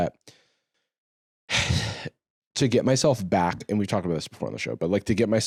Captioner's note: sighs